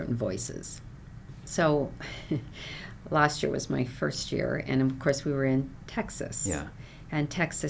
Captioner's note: chuckles